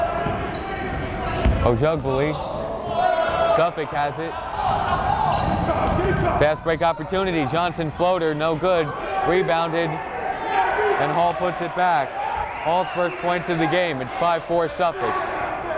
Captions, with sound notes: Ojugbele, Suffolk has it. That's break opportunity, Johnson floater no good, rebounded (yelling) And Hall puts it back. Hall's first point of the game, it's five four Suffolk.